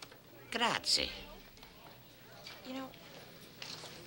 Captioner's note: Gus speaking Italian